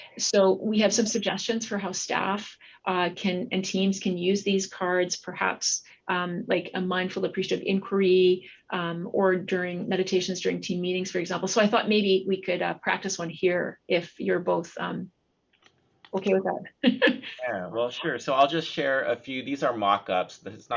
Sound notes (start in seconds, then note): 16.9 chuckles